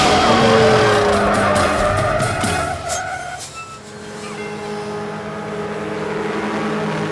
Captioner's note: dramatic music; engine revving